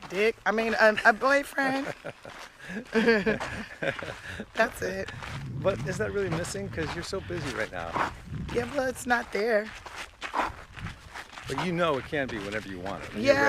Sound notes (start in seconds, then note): 2.6 laughter